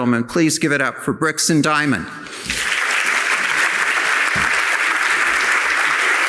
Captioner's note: audience applauding